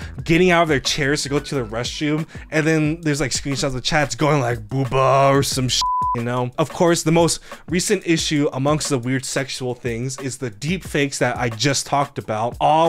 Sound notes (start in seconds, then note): 5.8 beep